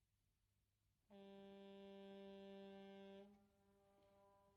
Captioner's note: foghorn Blows